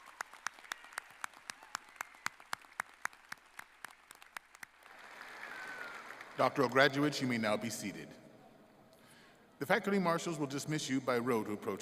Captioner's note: applause